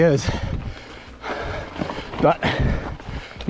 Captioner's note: pants